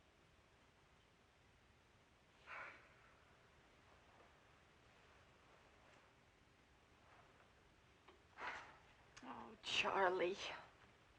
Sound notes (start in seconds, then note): 2.4 sighs